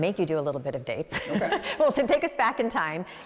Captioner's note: both laughs happily